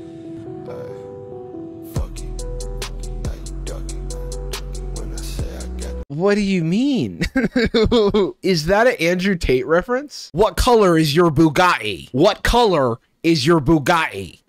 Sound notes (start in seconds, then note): 7.2 laughs; 10.3 mockingly